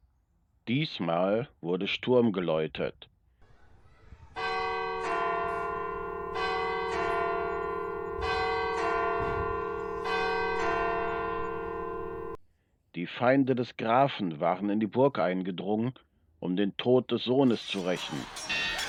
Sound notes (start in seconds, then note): 4.3 bell ringing; 17.4 battle noise